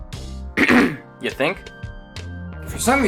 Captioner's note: clears throat